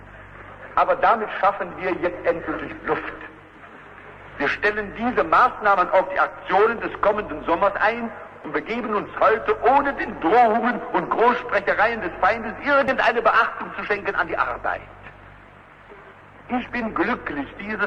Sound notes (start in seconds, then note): none